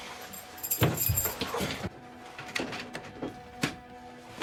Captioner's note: keys jingling